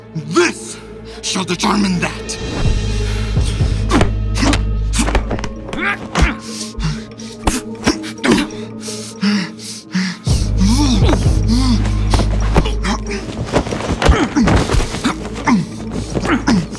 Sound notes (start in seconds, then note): 2.6 suspenseful music; 4.9 brawling